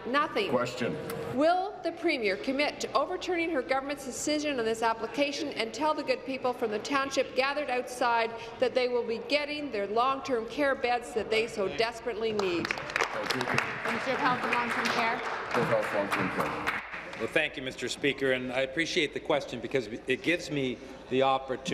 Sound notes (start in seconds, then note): 16.5 applause